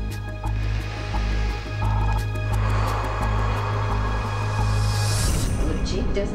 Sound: breaths deeply

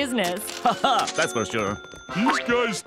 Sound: laughs

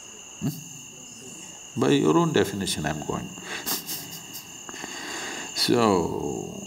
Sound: laughs

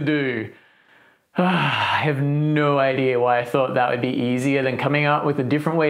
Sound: sigh

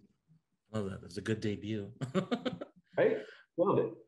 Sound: laughs

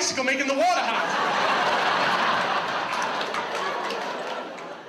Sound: audience laughs

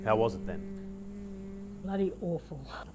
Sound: making humming noise

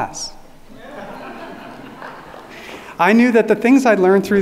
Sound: audience laughing

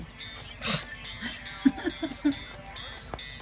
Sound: laughing

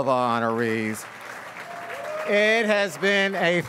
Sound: audience applauds and cheers

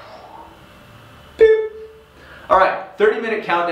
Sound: imitates beep

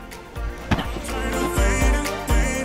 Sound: rag bumps; upbeat electronic music

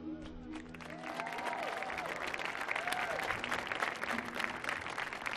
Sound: audience applauding

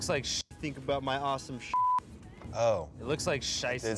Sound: beep

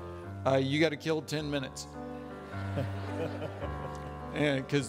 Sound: audience laughing

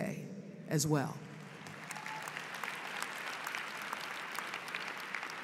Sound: applause

